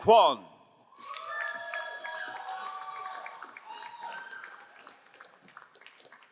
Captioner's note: crowd cheering and applauding